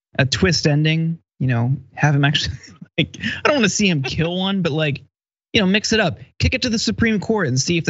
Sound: laugh

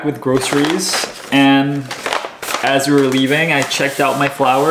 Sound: paper crinkling

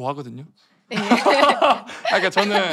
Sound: laughter

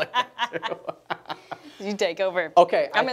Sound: laughing

